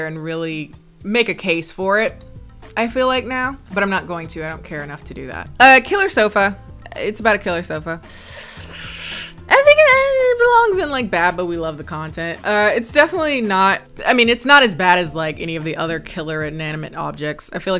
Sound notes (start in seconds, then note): 8.1 sighs